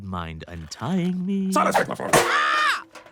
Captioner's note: pan clangs